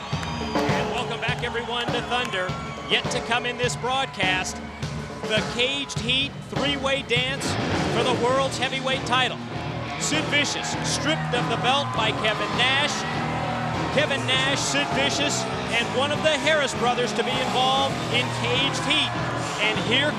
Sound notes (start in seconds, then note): 2.8 crowd cheering